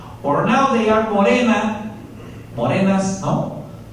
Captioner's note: spanish